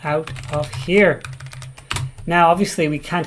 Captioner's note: keyboard keys clank